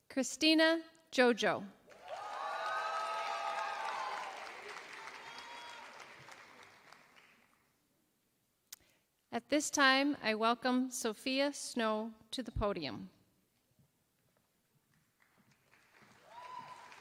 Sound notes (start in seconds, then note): 1.9 applause